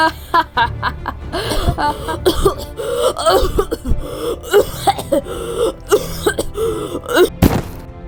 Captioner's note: Altair laughing; Altair choking